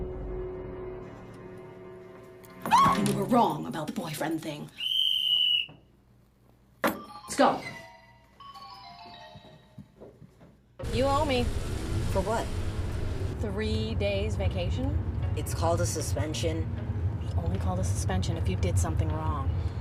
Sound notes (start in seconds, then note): 2.6 shrieks; 4.7 whistle blows